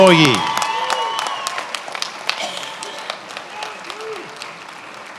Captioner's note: attendees applauding